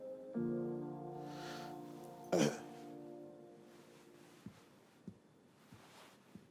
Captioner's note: clears throat